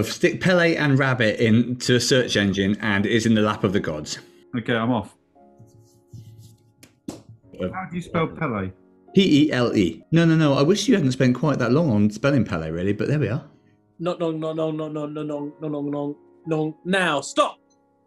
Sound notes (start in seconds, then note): 14.0 mumbles